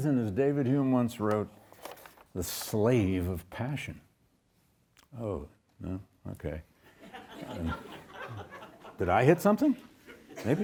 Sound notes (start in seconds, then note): 7.0 audience laughs